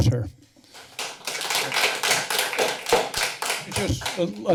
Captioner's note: applause